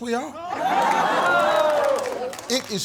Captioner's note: audience shouting